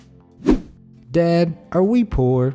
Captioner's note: air whooshing